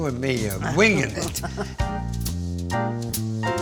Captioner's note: laughs